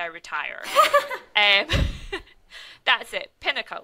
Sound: laughs

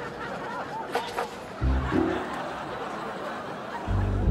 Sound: audience laughs

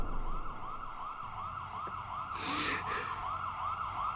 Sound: sirens blaring

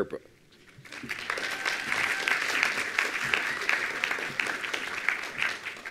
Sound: attendees applauding

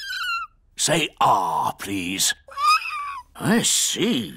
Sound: squeaks; squeaking

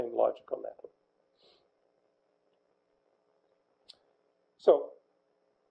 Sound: pause

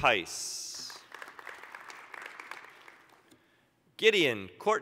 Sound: applause

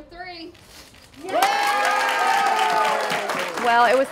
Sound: crowd cheering

